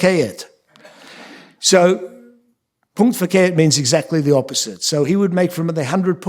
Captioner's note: yiddish